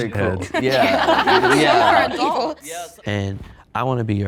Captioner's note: everyone laughing